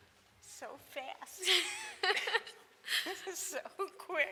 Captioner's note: laughs